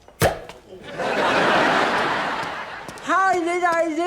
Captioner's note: pop; audience laughs